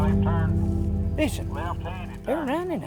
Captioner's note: man On Walkie Talkie